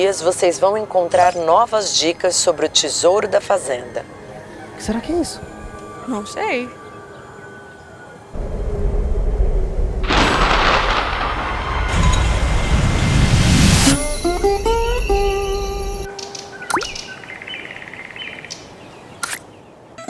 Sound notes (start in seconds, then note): 10.0 thunder; 16.6 click; 17.7 birds